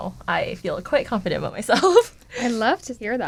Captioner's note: laughter